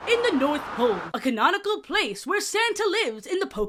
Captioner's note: harsh winds sfx